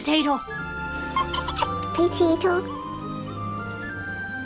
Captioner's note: giggles